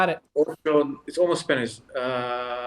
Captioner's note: Pieter speaking in foreign language